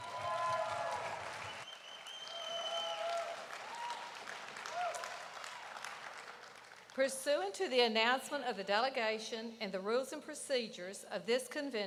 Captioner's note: applause